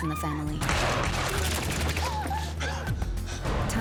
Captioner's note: gunshots